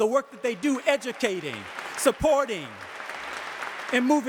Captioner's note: audience applauding